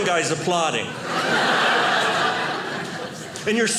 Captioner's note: audience laughing